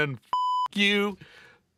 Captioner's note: beep